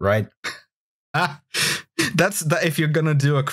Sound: laughter

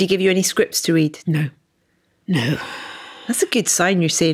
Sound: sighs

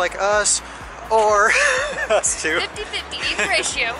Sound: laughing

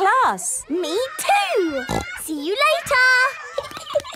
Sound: snorting; giggling

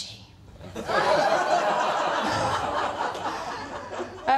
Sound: laughter

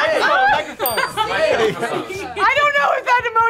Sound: bell dings

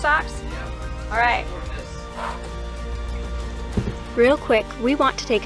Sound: exhales

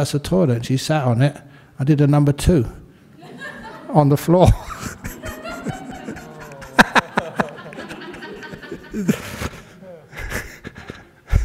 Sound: laughter

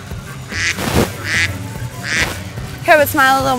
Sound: duck quacking

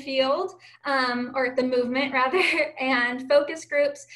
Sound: chuckling

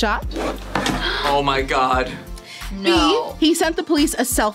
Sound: gasps; laughs

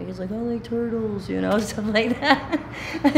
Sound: laughing

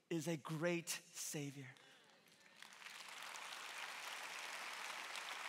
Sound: congregation clapping

